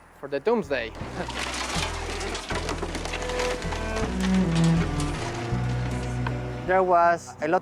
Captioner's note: metal crunching; somber music